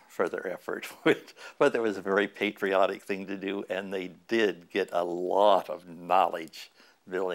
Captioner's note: chuckle